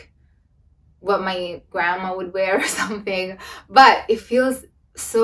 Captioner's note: laughs